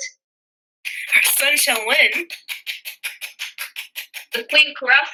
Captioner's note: clapping